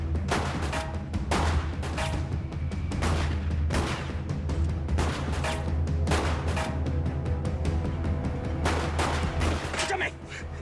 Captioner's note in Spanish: Disparos